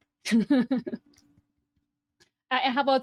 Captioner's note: laughs